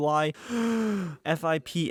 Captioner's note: takes deep breath